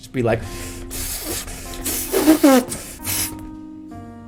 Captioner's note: inflating a balloon?